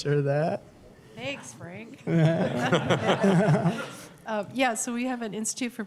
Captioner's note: laughter